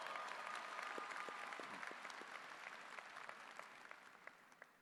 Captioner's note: applause